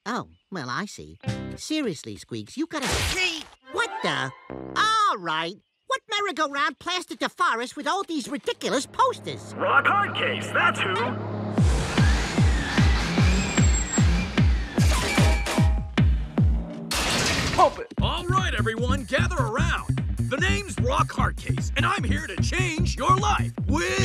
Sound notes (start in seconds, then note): 9.7 man on loudspeaker